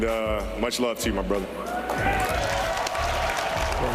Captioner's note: cheering